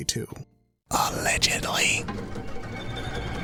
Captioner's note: whispers